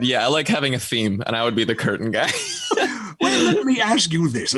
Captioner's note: laughs